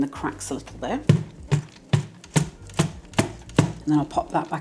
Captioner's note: bang bang bang bang